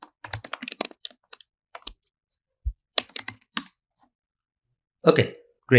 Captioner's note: keystrokes clicking continue